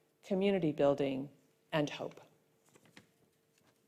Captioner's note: silence